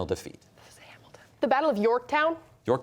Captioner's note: whispering